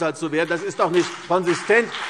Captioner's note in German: Beifall CDU und BÜNDNIS 90/DIE GRÜNEN